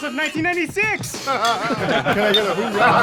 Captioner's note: all laughing